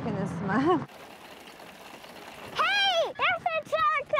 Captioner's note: hoof beats